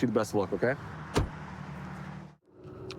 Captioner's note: door bangs